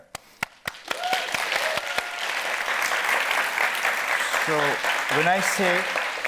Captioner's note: audience applauding